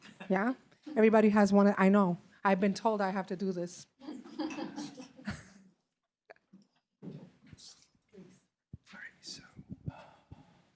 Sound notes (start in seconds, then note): 4.0 laughter